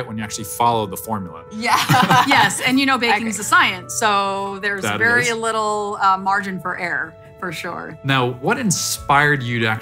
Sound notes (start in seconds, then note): 1.8 laughing